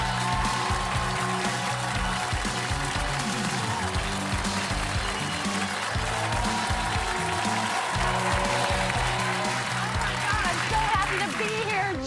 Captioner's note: applause